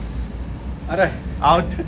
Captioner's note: exclaims